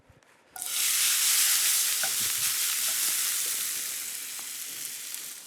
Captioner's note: sizzling